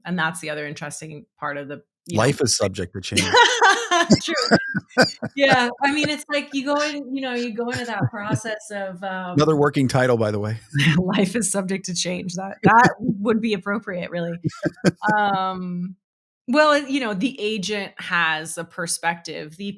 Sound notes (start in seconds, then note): 3.1 laughing; 14.4 laughing